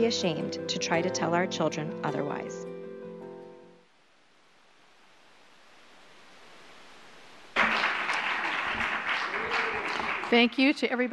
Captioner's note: applause